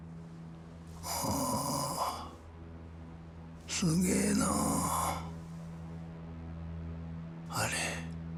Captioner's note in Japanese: うめき声